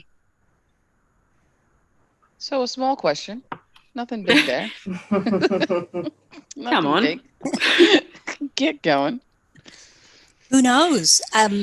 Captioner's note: laughter